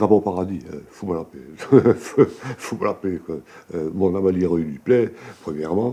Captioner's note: laughs